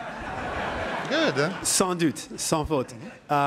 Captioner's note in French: rires